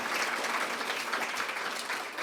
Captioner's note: applause